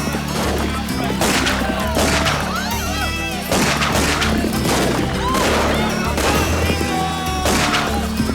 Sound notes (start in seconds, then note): 0.0 guns fire rapidly; 0.0 villagers yelp and yell